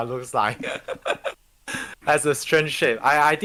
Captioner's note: laughing